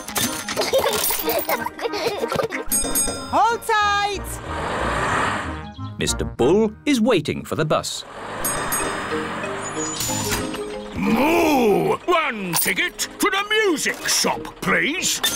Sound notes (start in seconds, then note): 0.3 children giggling; 2.6 bell rings